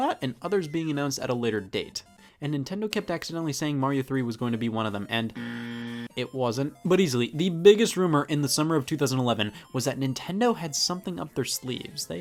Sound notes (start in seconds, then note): 5.3 buzzer ringing